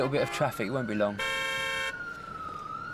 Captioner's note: cars honking; sirens wailing